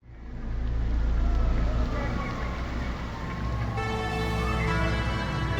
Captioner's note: raindrops, distant sirens, subtle drone